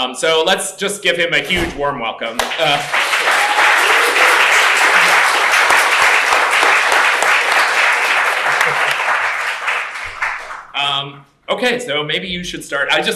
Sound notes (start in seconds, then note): 2.3 applause